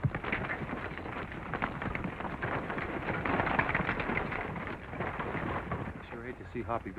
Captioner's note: wagon rattling